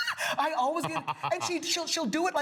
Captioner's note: laughs